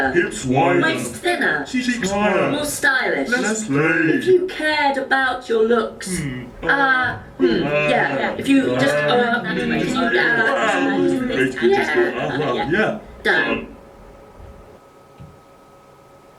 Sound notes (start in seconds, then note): 9.0 general scrutinising chatter